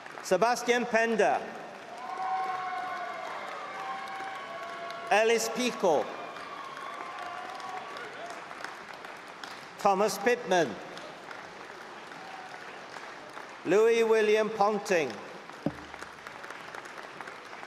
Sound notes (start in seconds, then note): 0.0 applause and cheering; 8.9 applause